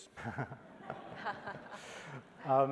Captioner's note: laughter